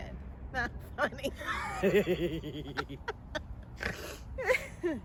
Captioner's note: laughing